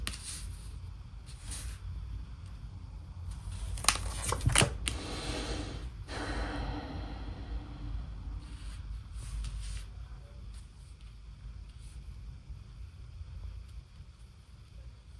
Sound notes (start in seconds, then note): 4.9 sigh